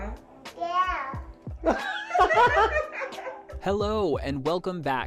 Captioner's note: group of people laughing